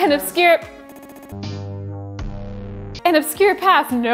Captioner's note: audio glitches